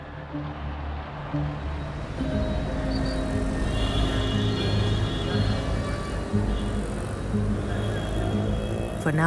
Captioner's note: sounds of traffic